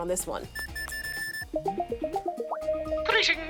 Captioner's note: keypad beeps, chimes